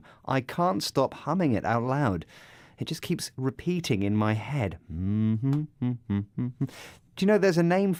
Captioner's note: more humming